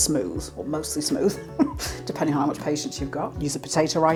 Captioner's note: laugh